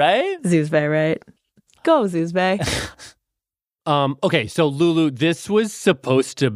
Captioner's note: laughs